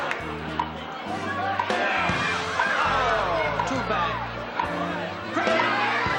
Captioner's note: audience laughs